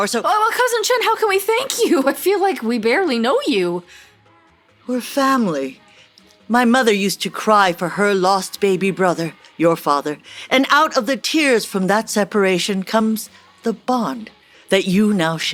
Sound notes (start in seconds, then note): none